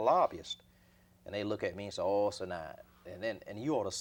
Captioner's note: audio blurs